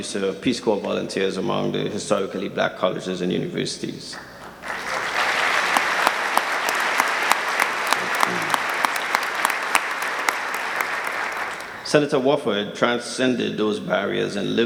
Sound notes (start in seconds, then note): 4.4 audience clapping